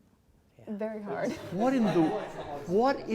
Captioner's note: audience laughing